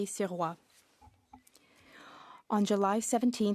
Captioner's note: speaking French